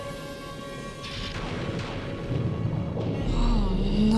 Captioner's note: storm rumbling